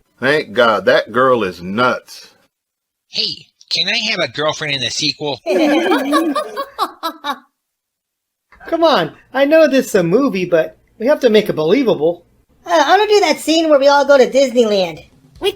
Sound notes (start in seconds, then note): 5.4 all laughing